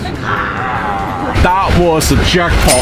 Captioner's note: both growl